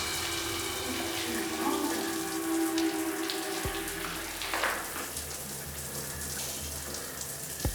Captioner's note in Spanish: sonido del agua